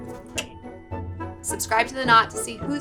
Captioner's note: clicks